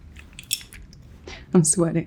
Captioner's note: nails tapping